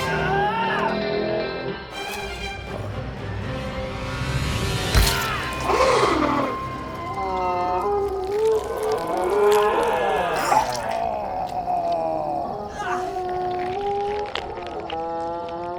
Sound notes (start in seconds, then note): 0.0 bucky grunting; 5.0 flesh squishing; 5.0 zombie spartacus groaning; 9.5 bucky grunting; 12.7 bucky grunting; 12.7 zombie spartacus groaning